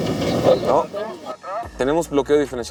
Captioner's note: engine revving; voice on radio